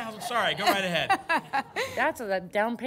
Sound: laughs

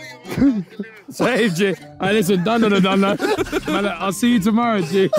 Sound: indistinct chattering; all laughing

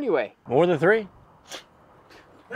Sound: Justin scoffs

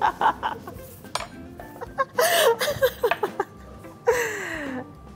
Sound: laughing

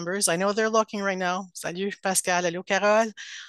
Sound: speaking in foreign language

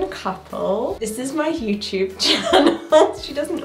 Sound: laughs

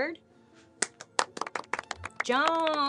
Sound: applauds

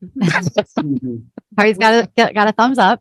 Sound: both laugh

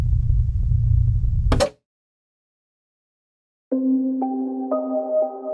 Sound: TV pops; ominous music

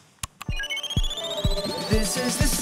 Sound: electronic beep

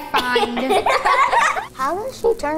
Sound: laughing

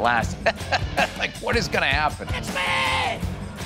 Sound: laughing

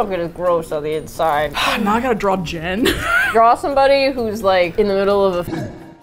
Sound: sigh; laughs

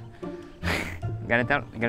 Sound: chuckles

